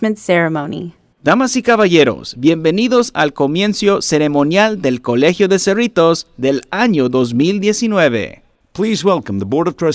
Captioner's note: speaking Spanish